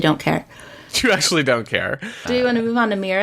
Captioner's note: laughs